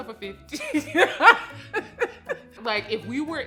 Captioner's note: laughing